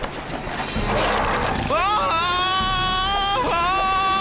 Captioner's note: roars